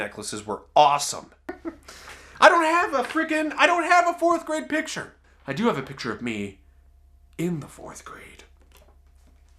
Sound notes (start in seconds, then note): 1.5 laughs